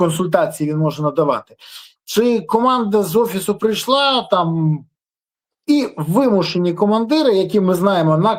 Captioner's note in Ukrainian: сопіння